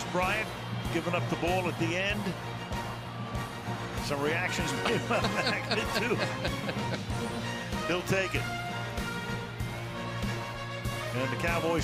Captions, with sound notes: And for Dez Bryant, giving up the ball at the end, some reactions-- [laughter] He'll take it.